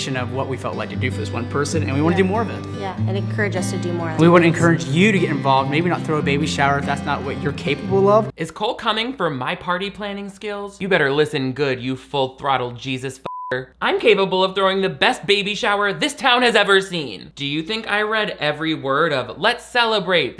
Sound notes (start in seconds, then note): 13.2 beep